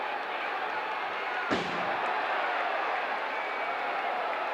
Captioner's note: audience cheering